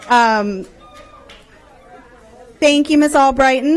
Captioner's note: loud cheering